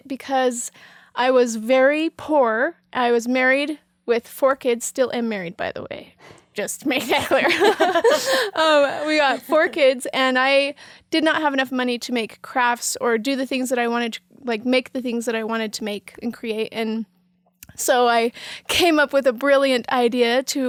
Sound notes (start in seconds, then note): 7.1 all laughing